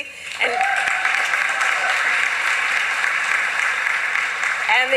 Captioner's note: applause